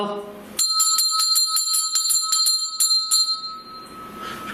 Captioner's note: bell rings